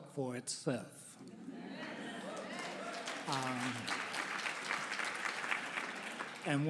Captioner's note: audience laughing; audience clapping